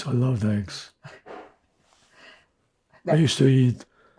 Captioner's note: laughing